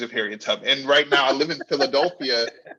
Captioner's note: laughing